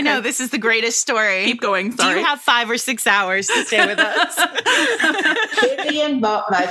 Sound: laughter

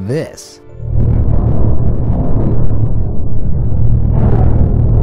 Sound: eerie rumbling

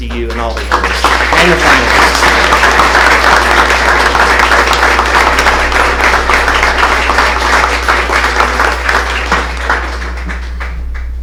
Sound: applause

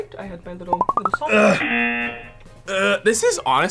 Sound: buzzer

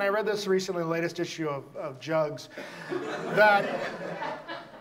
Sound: audience laughs

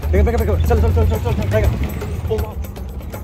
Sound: speaking in foreign language; suspenseful drumming music

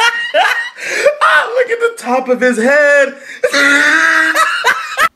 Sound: laughing

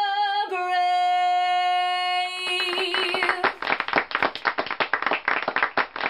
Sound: applause

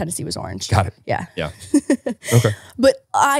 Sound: laughing

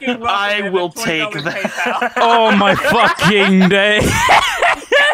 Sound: group laughter; laughing; group laughter

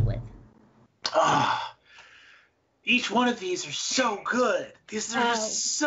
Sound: groans

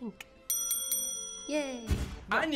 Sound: bell rings

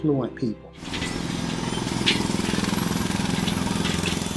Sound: engine roaring

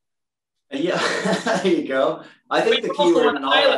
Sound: laughs

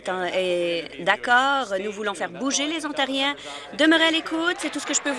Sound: applause

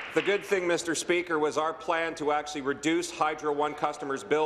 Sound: applause

